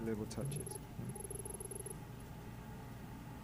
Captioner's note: text beeping